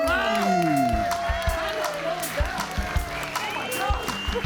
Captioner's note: audience cheering and applauding; mellow soft rock music